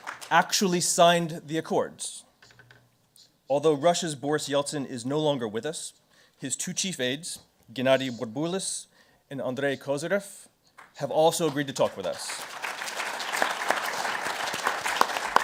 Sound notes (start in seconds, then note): 11.3 crowd clapping